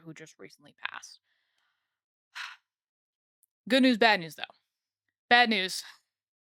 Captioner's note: sigh